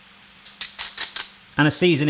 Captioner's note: grinding